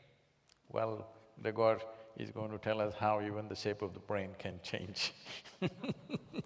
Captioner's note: laughs